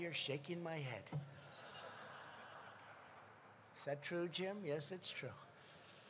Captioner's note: laughter